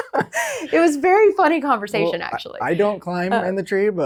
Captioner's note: laughs